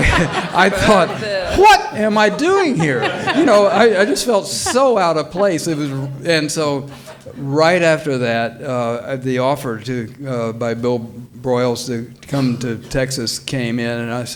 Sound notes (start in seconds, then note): 3.0 all laughing